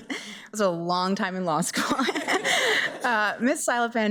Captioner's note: chuckles